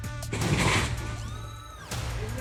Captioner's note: crash